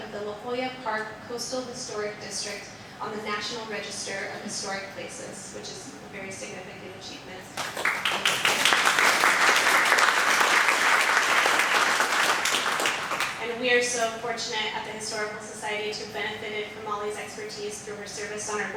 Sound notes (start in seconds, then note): 7.6 audience applauding